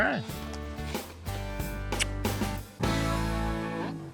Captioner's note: smooch